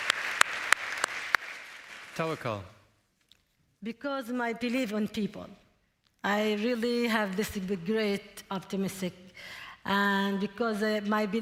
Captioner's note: applause